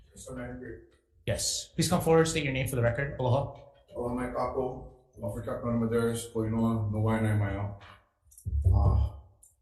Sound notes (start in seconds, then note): 0.2 testifier faintly speaking; 4.1 speaking Hawaiian